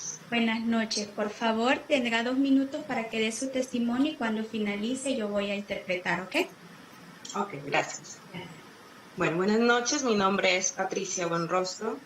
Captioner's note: spanish